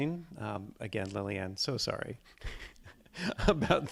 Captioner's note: chuckles